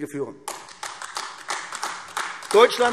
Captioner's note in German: Beifall AfD